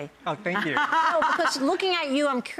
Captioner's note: laughing